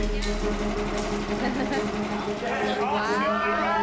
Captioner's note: chuckles